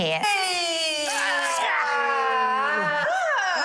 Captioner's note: groan